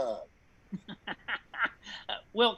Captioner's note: laughing